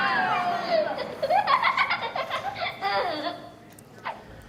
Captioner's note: girls laughing